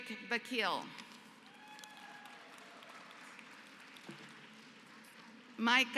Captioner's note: applause